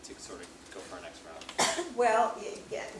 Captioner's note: cough